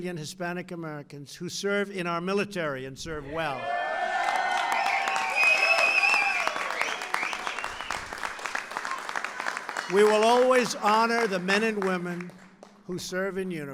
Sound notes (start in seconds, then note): 4.1 applause